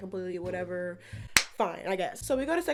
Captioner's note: clap